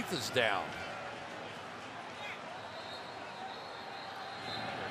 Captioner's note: whistles